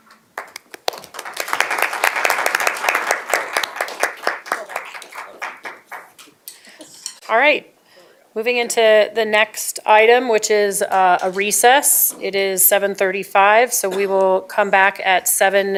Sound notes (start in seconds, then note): 3.8 applause